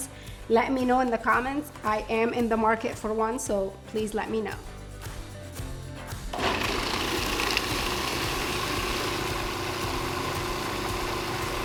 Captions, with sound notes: let me know in the comments I am in the market for one so please let me know. (blender grinding) (soft music)